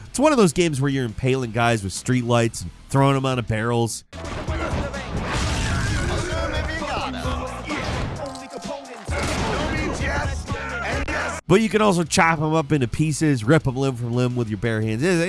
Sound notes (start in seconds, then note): 4.1 energetic music; 7.2 fighters grunting